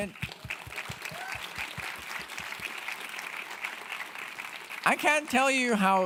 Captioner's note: audience cheering and clapping